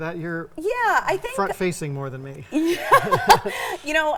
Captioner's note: both laughing